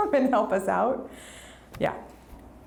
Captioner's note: none